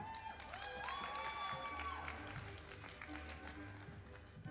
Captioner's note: audience applauding